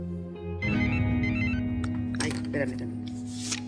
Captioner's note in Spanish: Suena el celular